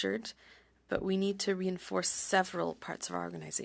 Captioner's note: speaking French